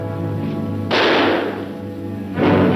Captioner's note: gun firing; dramatic music